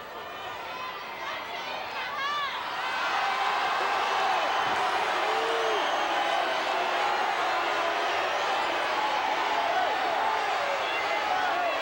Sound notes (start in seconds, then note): 5.3 audience booing